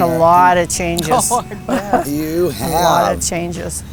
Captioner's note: laughing